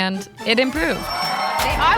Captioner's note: cheering